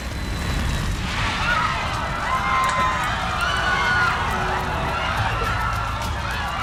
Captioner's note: humming; passengers screaming